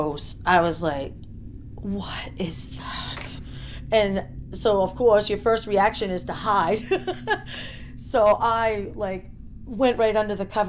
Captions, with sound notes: I was like, "what is that?" So of course your first reaction is to hide. (laughing) I went right under the covers